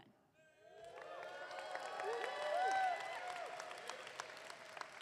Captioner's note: audience clapping